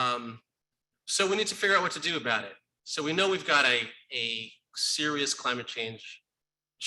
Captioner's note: none